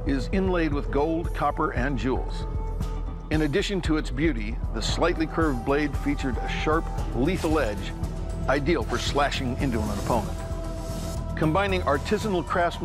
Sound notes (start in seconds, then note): none